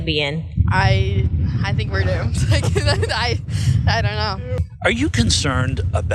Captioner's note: laugh